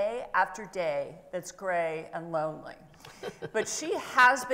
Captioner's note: laughs